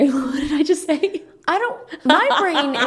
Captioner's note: laughs